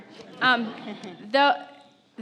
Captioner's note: audience laughs